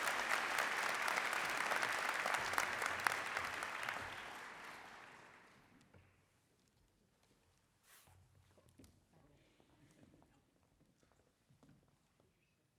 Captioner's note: applause